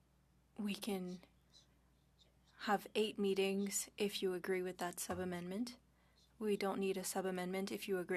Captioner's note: speaking French